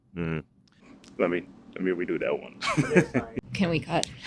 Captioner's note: laughing